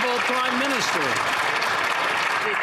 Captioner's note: some Applause